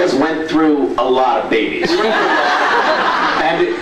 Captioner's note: laughs